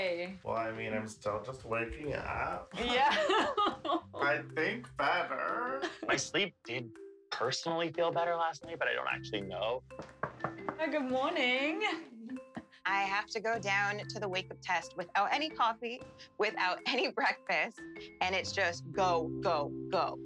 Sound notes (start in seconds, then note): 3.0 laughing; 10.0 knocking